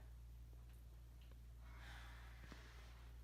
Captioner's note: beleaguered sigh